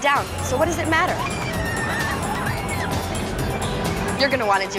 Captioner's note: riders screaming